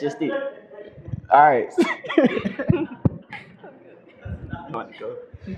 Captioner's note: laughter